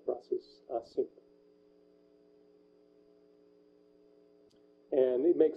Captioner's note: pause